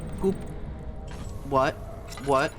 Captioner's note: singing; rumbling